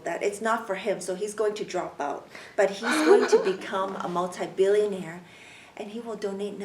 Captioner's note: laughs